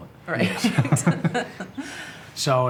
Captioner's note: laughs